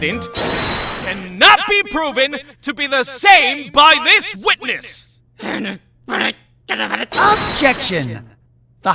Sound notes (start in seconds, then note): 6.1 frustrated growling!